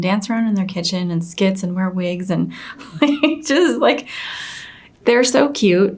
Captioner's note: giggles